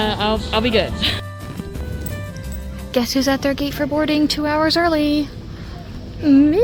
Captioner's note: whisper-talks